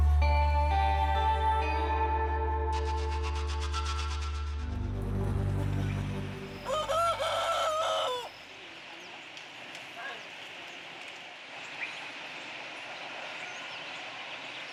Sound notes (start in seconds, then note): 0.0 mysterious music; 6.6 rooster crowing